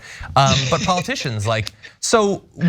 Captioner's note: laugh